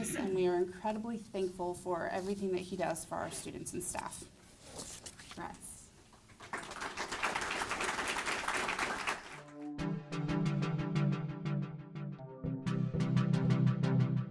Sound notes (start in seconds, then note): 6.2 applause; 9.4 tech music